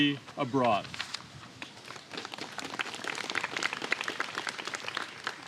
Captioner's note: applause